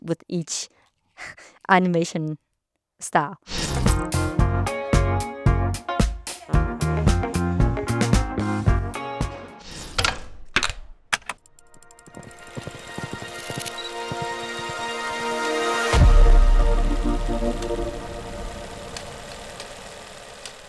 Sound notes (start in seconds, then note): 3.7 upbeat pop music; 11.1 player clicking; 11.5 horse galloping; 15.1 gentle music; 17.9 reel rattling